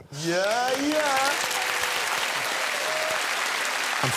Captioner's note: applause